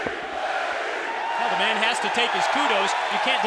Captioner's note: crowd cheering